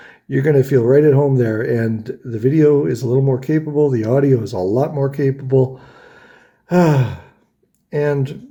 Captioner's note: sighs